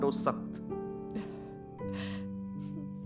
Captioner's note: Chuckles